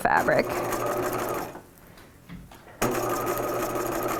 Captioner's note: machine whirring